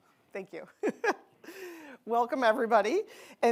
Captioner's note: chuckling